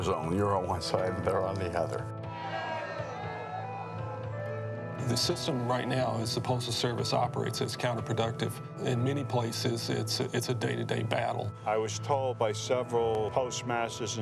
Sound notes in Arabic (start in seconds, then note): 2.3 المتظاهرون يهتفون